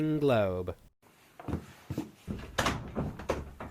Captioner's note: footsteps; door opens